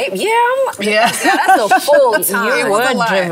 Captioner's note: laughter